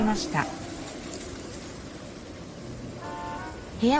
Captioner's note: barks and groans fade. Sound of wind